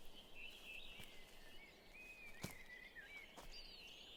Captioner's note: birds chirping